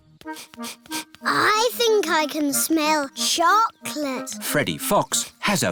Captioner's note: sniffs